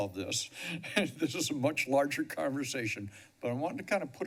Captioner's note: chuckles